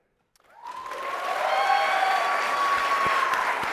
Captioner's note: applause